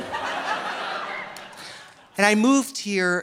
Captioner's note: audience laughing